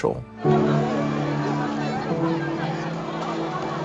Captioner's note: crowd murmurs